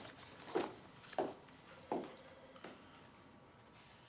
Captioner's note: approaching footsteps